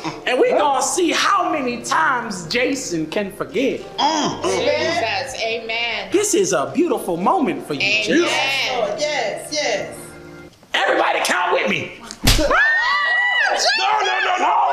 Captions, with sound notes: and we're gonna see how many times Jason can forgive. This is a beautiful moment for you, Jason. Everybody count with me. (slap) (Crowd screams) (Indistinct chatter)